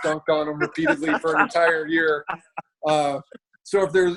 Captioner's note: laughs